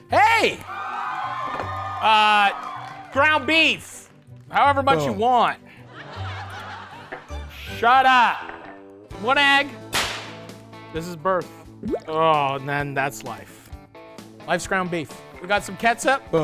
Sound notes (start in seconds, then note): 0.6 crowd cheering; 5.8 audience laughing; 9.9 whip cracking